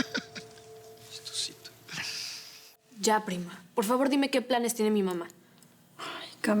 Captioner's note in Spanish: Risas